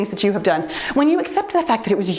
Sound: none

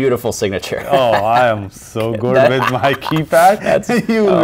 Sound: laughs

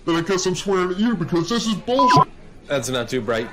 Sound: beep

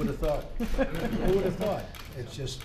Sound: laughter

